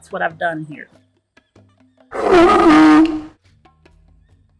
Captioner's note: sea lion barks